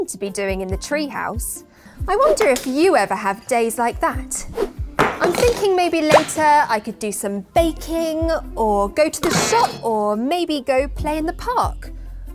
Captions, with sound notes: to be doing in the tree house. I wonder if you ever have days like that? (loud whooshing) (bang) I'm thinking maybe later I could do some baking or go to the shop, (loud bang) or maybe go play in the park.